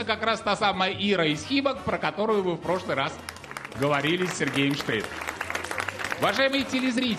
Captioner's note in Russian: аплодисменты